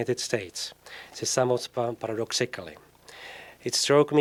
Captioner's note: slurred